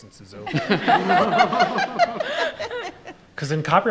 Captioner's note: all laughing